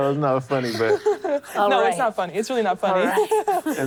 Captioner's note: laughter